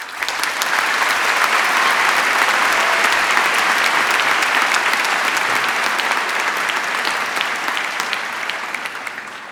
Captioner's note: applause